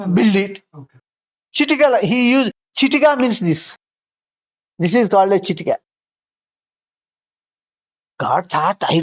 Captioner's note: finger snap